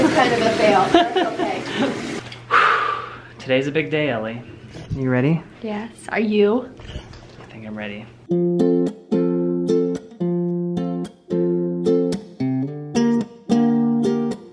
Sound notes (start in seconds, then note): 2.5 sighs; 8.2 sweet guitar music